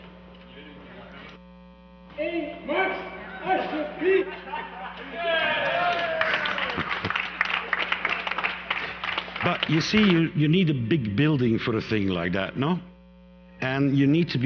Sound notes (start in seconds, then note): 5.4 applause